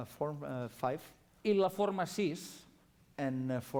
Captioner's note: non-english speech